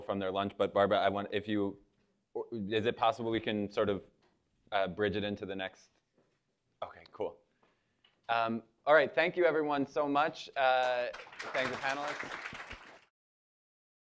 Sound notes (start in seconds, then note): 10.8 applause